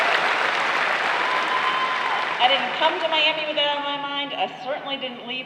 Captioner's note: applause